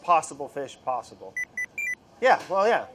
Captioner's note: beeping